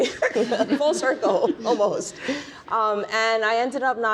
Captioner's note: panelists laughing